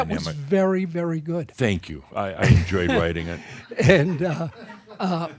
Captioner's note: some chuckles